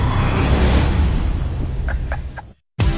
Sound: laughs

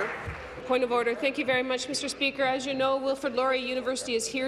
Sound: applause

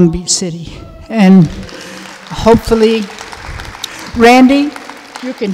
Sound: audience applauding

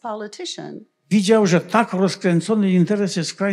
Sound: foreign language

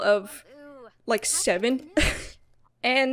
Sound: laughs

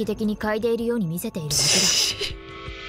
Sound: snickers

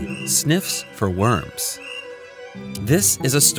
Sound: crickets

